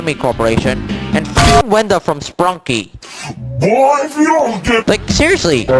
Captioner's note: panhit.sfx